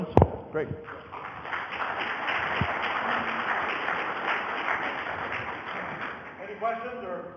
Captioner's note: audience applause